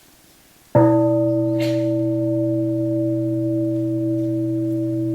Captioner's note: bell rings